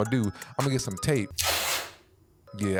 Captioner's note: pulling tape